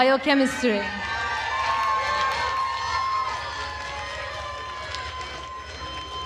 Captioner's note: attendees cheering and applauding